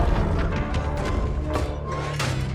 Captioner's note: creaking, clattering